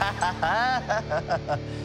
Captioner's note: laughing